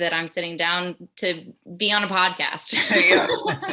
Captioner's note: laughs